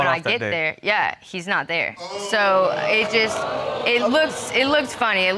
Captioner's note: audience exclaiming